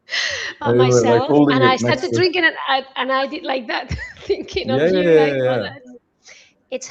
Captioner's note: laughter